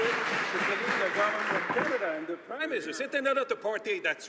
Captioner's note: some Applause